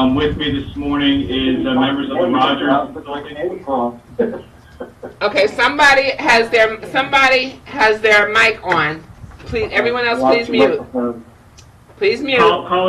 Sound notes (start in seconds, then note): 3.2 man speaking in the background